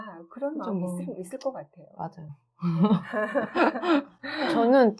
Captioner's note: everyone Laughter